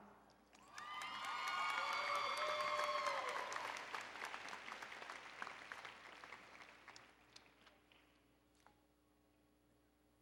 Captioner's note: applause and Cheering